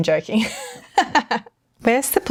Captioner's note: laughing